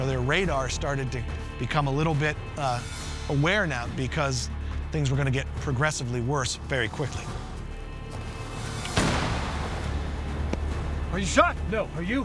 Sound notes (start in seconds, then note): 8.9 gunshot